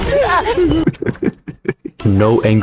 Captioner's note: laughs to myself